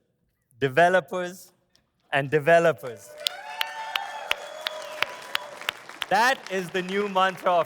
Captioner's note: audience applauds